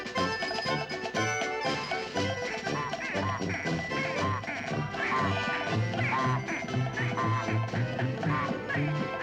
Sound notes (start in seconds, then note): 2.2 honking in time